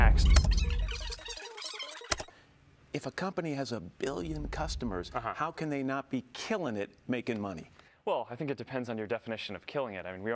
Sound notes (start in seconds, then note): 0.0 tape warbling; 0.2 button clicks